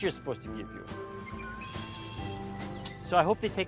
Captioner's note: birds chirping